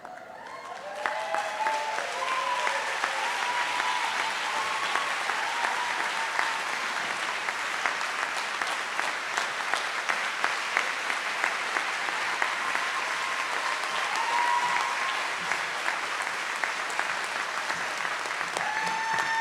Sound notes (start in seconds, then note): 0.3 audience applauds; 3.0 audience cheers